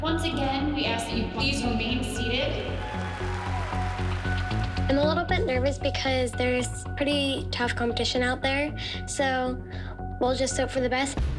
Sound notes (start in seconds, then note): 2.4 cheering and applause